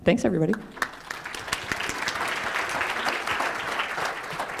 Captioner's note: applause